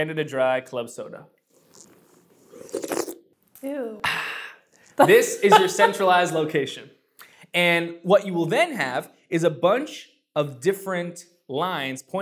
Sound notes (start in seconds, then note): 1.4 slurp